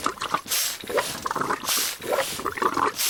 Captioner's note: water gurgling, steam hissing